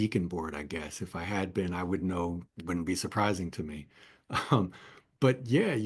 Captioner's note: laugh